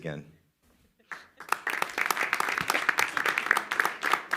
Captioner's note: applause